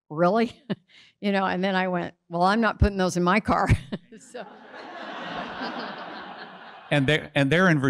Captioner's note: audience laughs